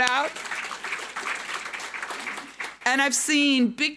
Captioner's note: audience applauding